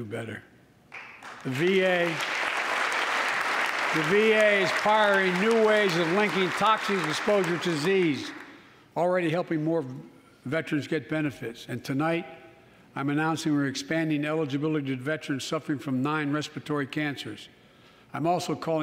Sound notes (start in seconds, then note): 6.2 applause